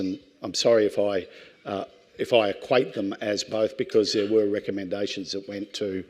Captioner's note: none